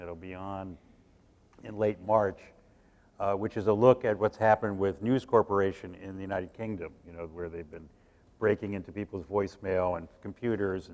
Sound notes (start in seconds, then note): none